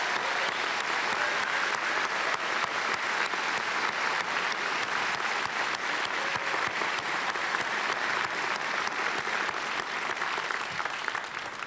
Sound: cheers and applause

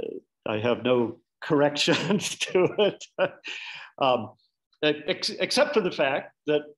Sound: laughing

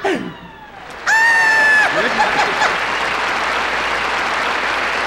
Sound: both laugh; topo screeches excitedly; audience applauds

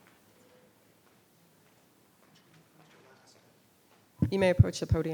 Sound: speaking distantly

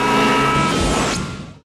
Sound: explosion

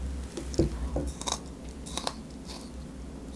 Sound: crunchy sound

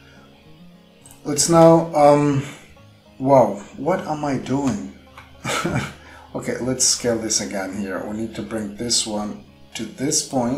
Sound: laugh

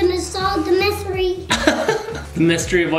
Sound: laughs

